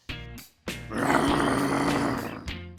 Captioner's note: growling